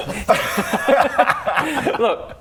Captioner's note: laughs